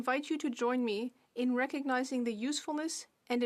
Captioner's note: speaking French